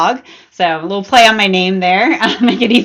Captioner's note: laughs